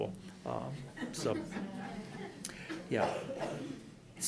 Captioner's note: laughing